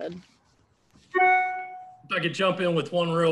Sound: bell chimes

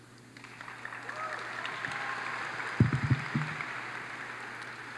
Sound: audience applauds

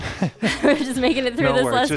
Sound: chuckles

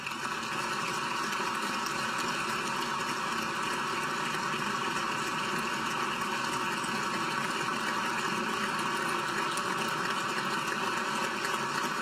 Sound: applause

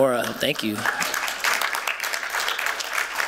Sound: applause

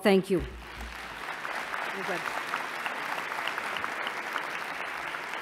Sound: applause

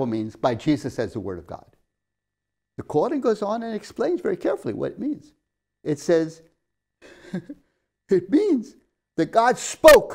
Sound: laughs

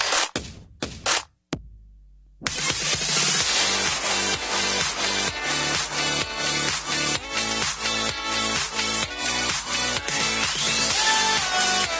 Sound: applause

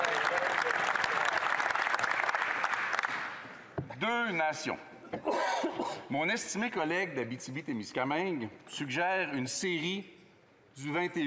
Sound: applause

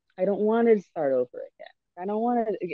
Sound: none

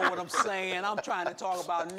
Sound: group laughing

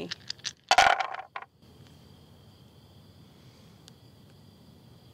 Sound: dice thumping

